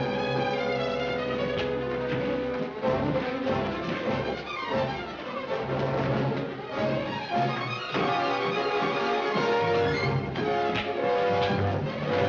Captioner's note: men struggling